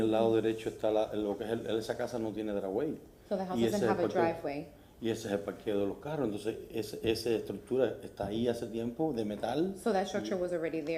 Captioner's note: speaking in spanish